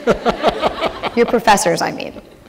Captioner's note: laughter